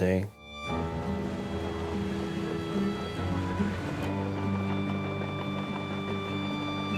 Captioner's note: gentle music; waves roaring